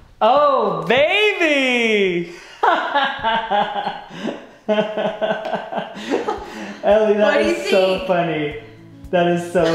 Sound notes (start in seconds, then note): 2.3 laughs